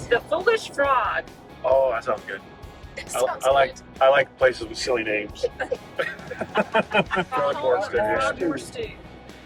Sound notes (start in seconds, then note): 5.4 all laughing